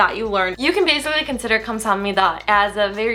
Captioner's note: foreign language